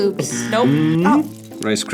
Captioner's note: buzzer